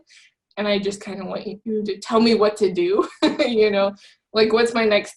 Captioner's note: laughs